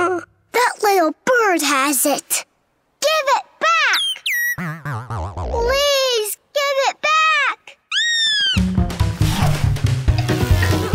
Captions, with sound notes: That little bird has it. Give it back. [chirping] Please, give it back. [chirping]